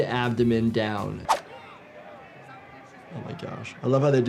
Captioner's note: graphic whooshes